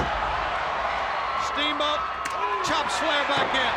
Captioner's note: crowd cheering